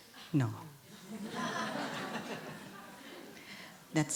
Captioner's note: laughter